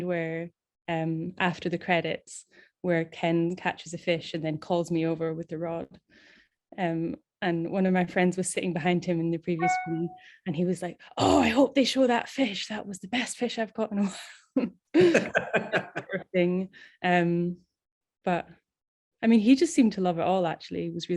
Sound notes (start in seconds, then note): 15.0 laughing